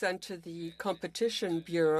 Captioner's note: speaking French